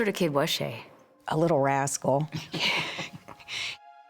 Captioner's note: laughter